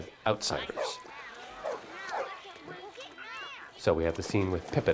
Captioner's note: water splashing on screen